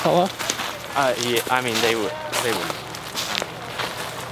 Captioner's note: stammering